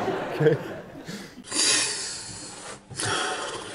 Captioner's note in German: Lautes Atmen